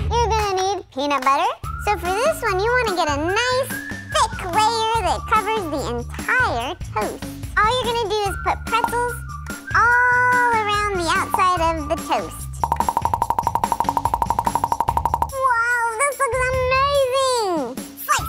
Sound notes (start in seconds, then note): 12.6 bubbles popping